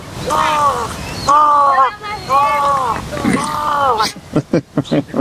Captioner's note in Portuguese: imita o chamado do corvo